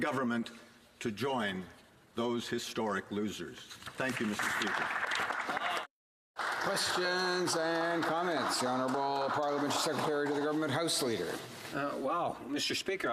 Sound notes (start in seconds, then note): 9.1 some Applause